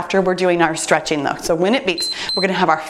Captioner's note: timer beeps